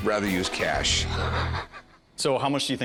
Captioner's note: laughs